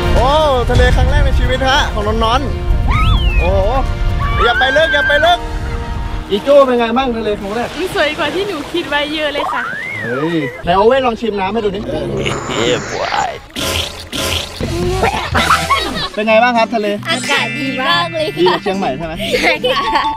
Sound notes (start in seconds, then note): 4.2 screams; 14.6 pukes; 15.4 laughs